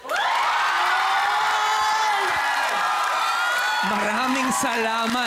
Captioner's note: applause, cheering